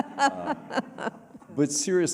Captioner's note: laughter